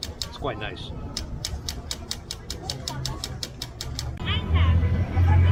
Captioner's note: vendor tapping coin on glass